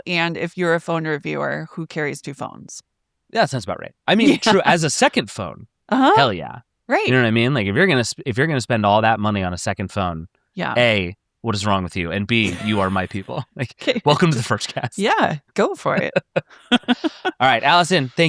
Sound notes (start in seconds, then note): 12.4 laughs; 15.9 both laughing